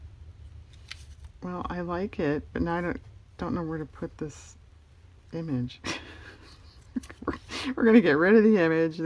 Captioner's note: laughs